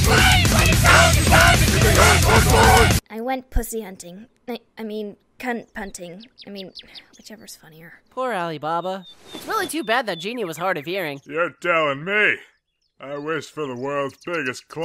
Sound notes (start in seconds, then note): 6.4 sigh